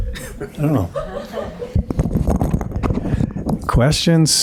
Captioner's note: audience laughs